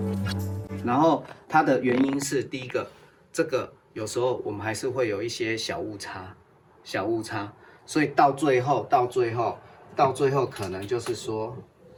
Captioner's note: foreign